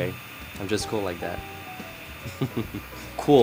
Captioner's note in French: rires